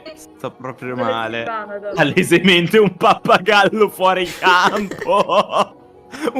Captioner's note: laughing reading